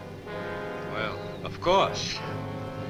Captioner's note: chuckles